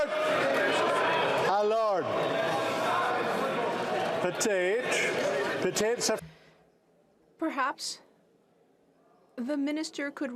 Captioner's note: yelling